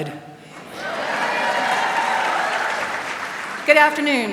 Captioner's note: applause